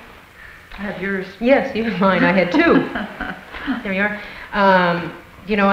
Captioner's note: laughter